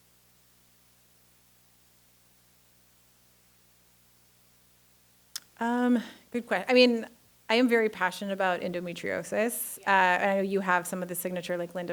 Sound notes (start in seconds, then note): 0.0 silence continues